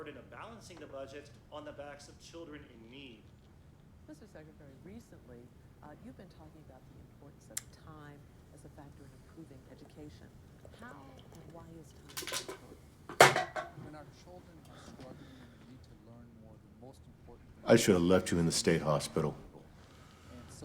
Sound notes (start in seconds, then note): 14.4 beer can clattering